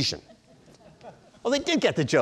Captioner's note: audience chuckling